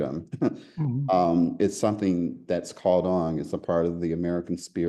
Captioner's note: laugh